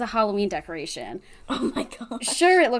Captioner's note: laughs